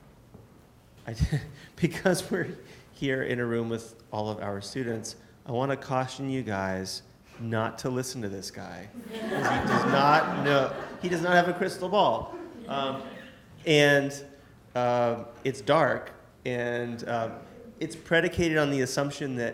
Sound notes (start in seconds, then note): 1.3 laughs; 9.0 audience laughs